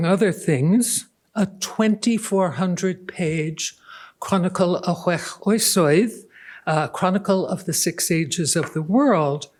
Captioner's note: non-english